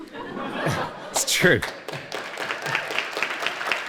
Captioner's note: audience laughter; audience applause